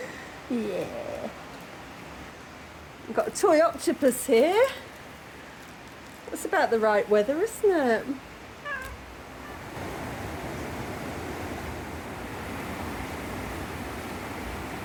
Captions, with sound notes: Yeah. We've got a toy octopus here. That's about the right weather, isn't it? [meow] [heavy rain]